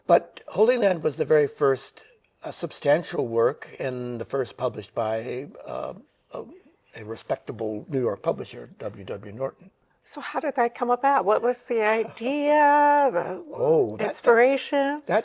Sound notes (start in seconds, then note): none